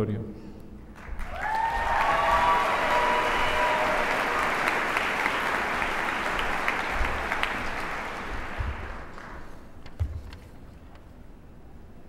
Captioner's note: applause